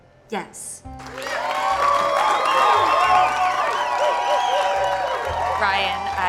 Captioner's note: cheers and applause